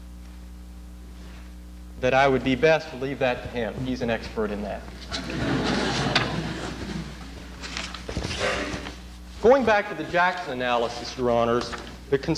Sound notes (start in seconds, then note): 5.1 laughter